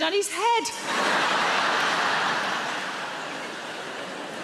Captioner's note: audience laughs